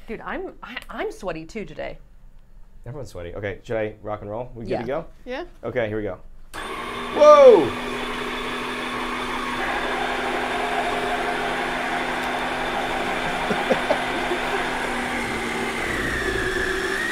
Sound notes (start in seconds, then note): 8.3 ice cream maker whirring; 13.0 chuckles